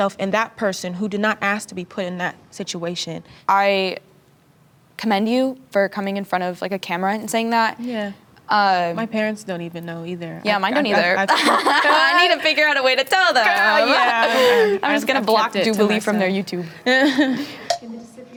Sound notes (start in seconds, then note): 10.9 both laugh